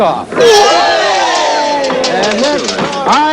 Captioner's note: all exclaiming in delight